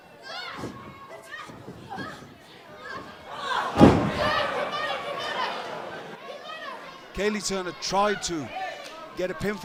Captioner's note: crowd chatter